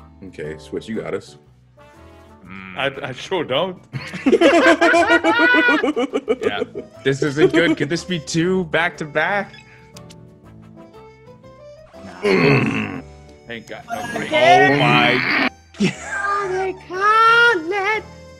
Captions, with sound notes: >> Okay switch you at us >> I sure don't. [LAUGH] This is a good, could this be two back to back?